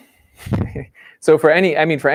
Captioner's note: laughs